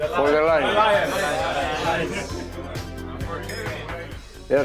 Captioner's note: men toast